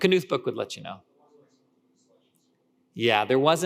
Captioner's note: speaker speaking faintly